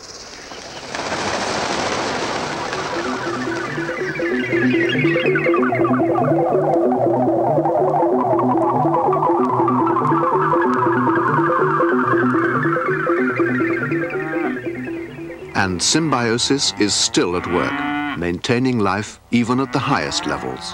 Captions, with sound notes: [Wings Flapping] [Futuristic Music] [Mooing] >>And symbiosis is still at work maintaining life even at the highest levels.